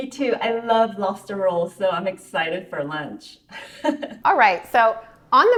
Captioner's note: chuckles